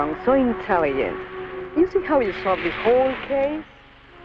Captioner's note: speaks in Spanish